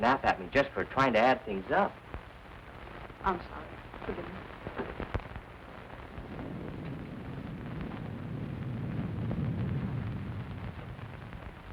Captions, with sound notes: just for trying to add things up. - I'm sorry, forgive me. (thunder rumbling)